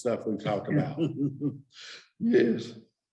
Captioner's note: chuckling